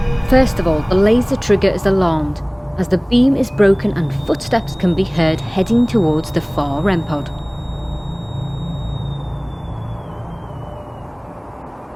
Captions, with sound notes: First of all, the laser trigger is alarmed, as the beam is broken, and footsteps can be heard heading towards the far REM pod. (squealing)